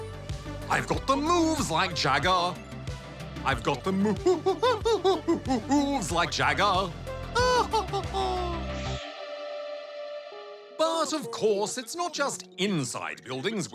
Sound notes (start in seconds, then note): 7.3 laughs